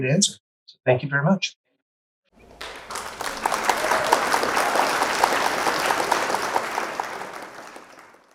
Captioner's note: clapping